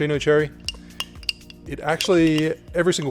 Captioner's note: clinks